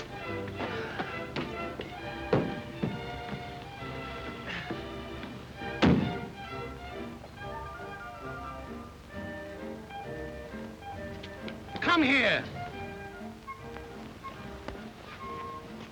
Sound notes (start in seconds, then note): 5.7 door thuds; 6.0 gentle music